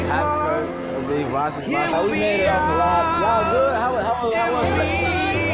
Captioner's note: students chattering